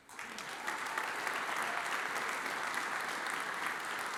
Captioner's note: audience applauds